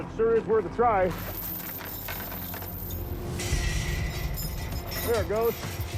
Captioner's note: chains rattling